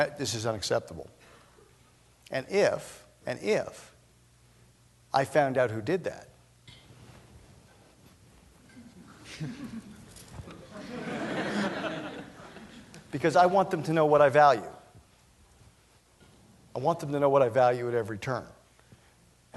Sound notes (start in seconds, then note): 8.5 laughter